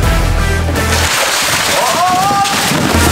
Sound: foam falling

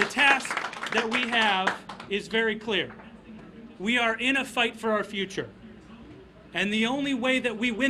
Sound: applause

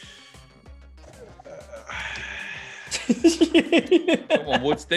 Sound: laugh

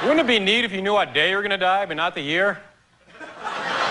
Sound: laughter

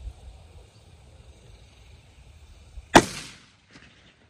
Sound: report of the rifle

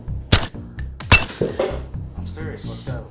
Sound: gun firing

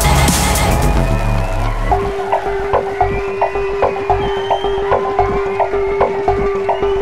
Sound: audience cheering and whistling

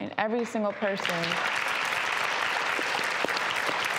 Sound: applauding

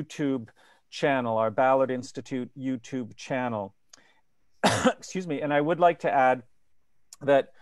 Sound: coughs

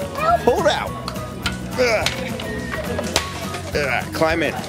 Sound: grunting sound

